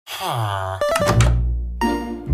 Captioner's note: Villager grunts